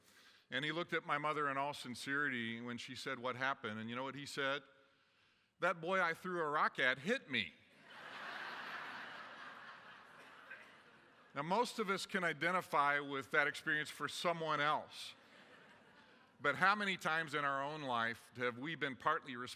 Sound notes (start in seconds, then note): 7.8 laughter